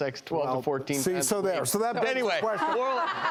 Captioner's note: laughter